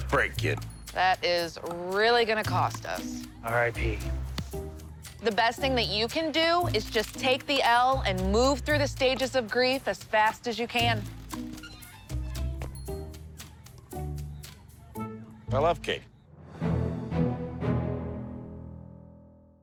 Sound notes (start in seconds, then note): 3.1 fist thuds; 10.7 gentle music; 11.5 gate creaks; 16.4 triumphant music